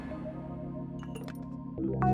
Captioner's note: glass rattling